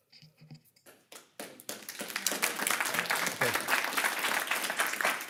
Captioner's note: audience applauding